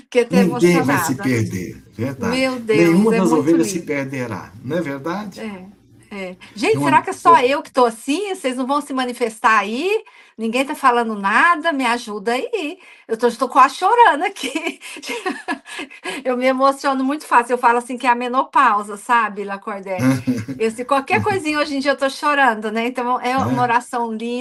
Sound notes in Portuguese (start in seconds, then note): 14.4 risadas